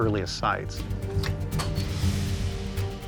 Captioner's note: beeping, clicking